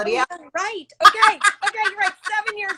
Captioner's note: laughs